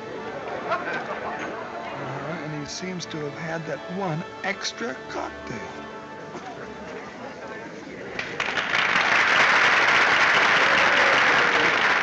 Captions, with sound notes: Alright, and he seems to have had that one extra cocktail. [audience applauding]